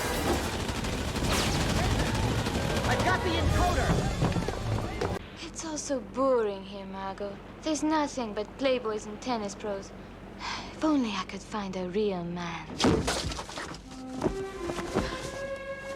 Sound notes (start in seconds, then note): 0.0 machine gun firing; 1.7 multiple shouts from crowd; 3.7 footsteps; 12.8 thud